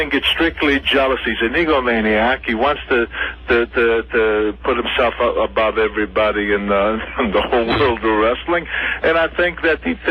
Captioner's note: laughs